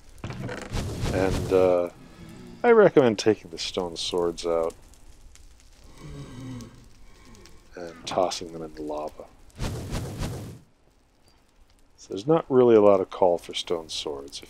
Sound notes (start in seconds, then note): 5.3 blaze oohs and crackles; 8.9 fireballs